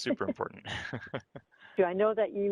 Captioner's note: both laughs